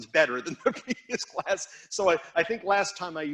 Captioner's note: instructor chuckling